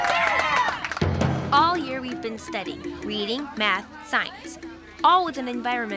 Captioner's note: kids cheering and clapping